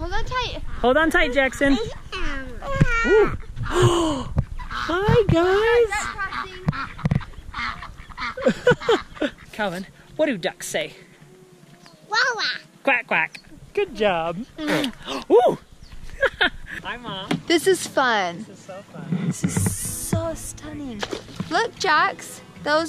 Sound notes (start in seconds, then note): 3.7 gasps; 9.1 laughing; 14.6 kisses